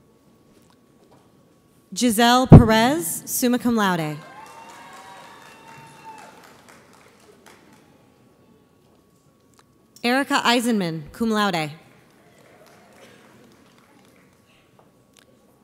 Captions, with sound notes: Giselle Perez, summa cum laude. (audience applauds) Erica Eisenmann, cum laude. (audience applauds)